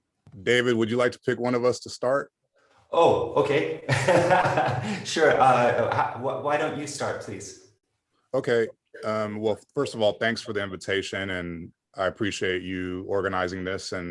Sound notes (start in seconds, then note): 3.8 laugh